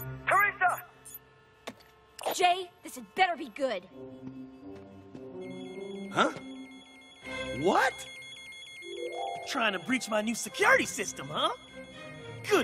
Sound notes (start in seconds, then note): 0.0 beeping; 5.8 beeping